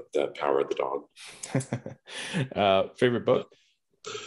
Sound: laughs

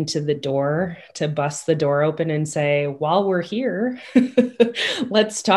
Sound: laughs

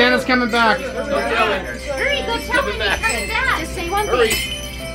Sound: crowd talks

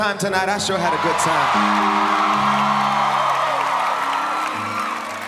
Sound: audience cheering

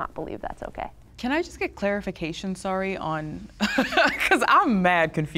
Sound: laughs

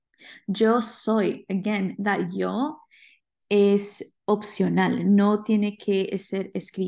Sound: speaking spanish

